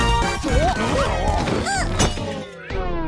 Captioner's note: all groaning, grunting; music slows, stops